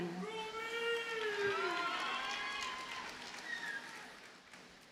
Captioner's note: audience cheers and applauds